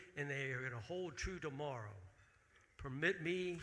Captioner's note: none